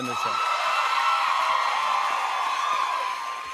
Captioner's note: cheers and applause